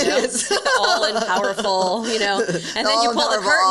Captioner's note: laughs